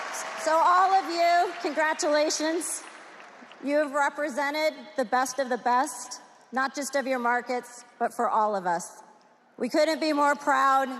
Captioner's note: cheers and applause